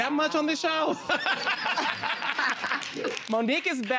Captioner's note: laughs; audience applauding